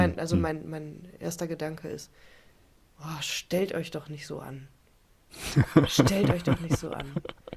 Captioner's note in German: räuspern; gelächter